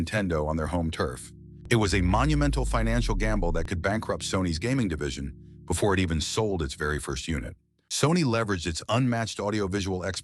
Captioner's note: SFX: dramatic heavy bass drop